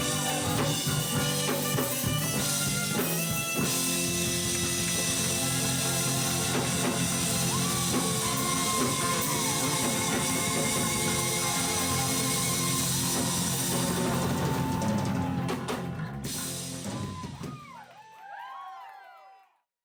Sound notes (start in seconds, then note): 6.8 audience cheers; 17.5 audience cheers